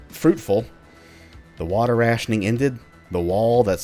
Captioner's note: none